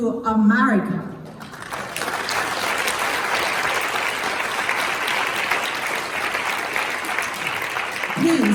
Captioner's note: claps